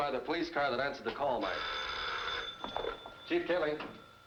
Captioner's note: phone rings